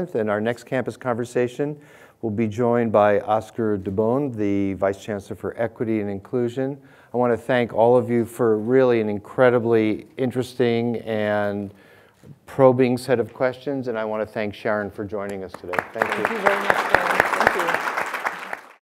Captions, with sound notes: in our next campus conversation, we'll be joined by Oscar Dubon, the Vice Chancellor of Equity and Inclusion. I want to thank all of you for really an incredibly interesting and probing set of questions. And I want to thank Sharon for joining us today. - Thank you very much Dan. (clapping)